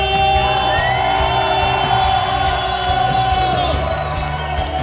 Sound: crowd cheering

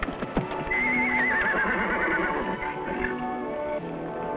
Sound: Champion whinnies

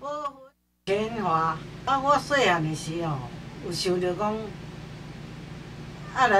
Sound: speaking foreign language

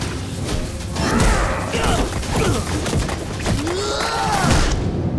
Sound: grunting

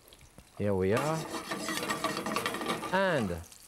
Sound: pan scraping

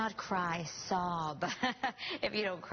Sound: laughter

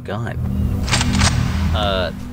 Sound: weapon sound

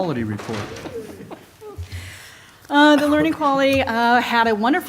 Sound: laughter

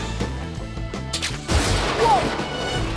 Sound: loud crash

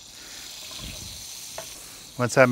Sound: pan sizzles

